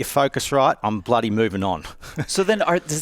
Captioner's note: chuckles